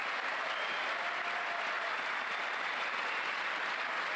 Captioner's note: cheers and applause